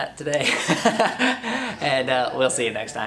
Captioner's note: laughs